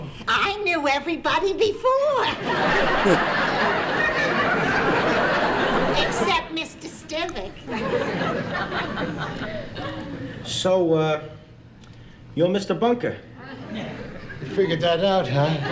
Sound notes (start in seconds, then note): 4.7 audience Laughing